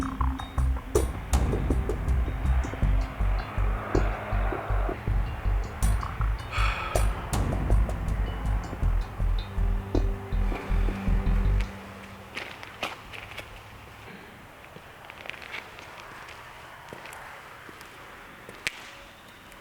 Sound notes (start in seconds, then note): 6.4 Jason sighs